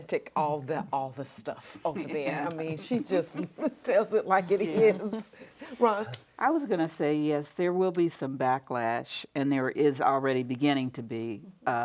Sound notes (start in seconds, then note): 4.4 laughs